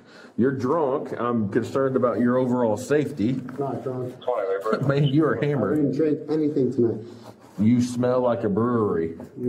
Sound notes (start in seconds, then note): 4.1 radio chatter